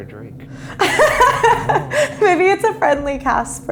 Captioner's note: laughs